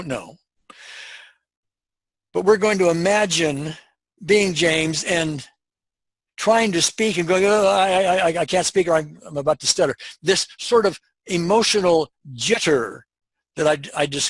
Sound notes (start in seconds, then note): 7.8 stuttering